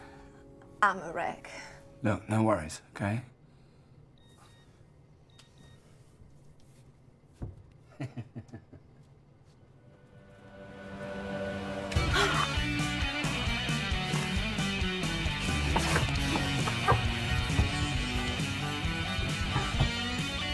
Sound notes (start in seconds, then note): 5.2 beeping; 7.2 laughing; 11.7 rock music